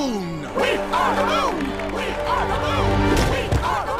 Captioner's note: chanting; crowd chanting and cheering